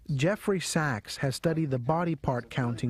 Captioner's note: voiceover